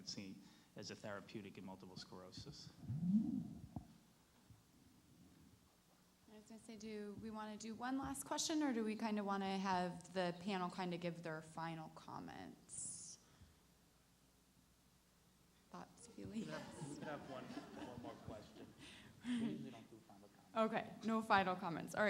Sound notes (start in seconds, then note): 16.4 audience laughs